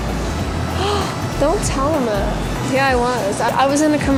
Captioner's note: gasps